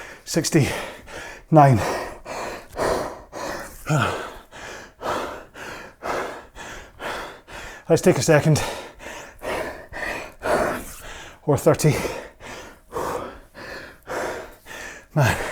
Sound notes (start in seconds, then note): 9.1 breathing heavily